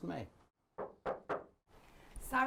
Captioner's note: knocks on the door